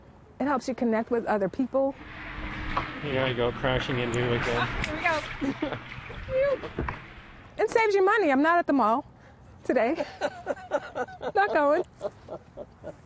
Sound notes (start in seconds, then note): 9.8 laughter